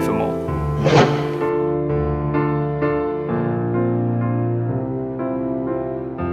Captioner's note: piano music; transition sound effect